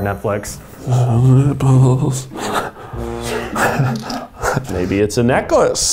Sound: laughs

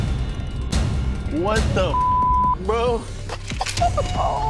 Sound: beep; laughter

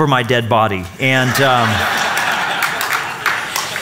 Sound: laughter

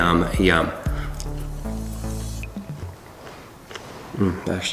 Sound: chomping

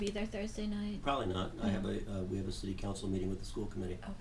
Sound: voiceover

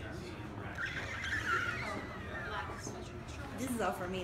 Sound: squealing

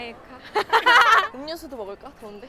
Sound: laughing

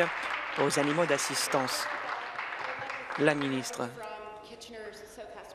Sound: applause

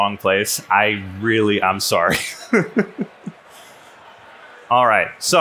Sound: laughs

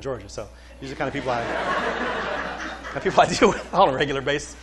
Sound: laughter

